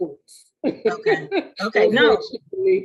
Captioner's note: laughing